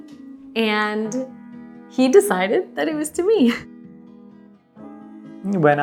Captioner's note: chuckles